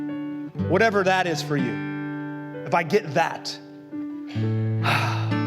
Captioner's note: suspira